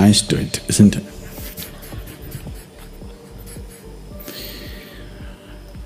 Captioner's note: laughs; हंसते हुए